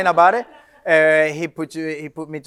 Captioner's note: audience laughs